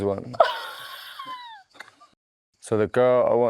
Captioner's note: laughs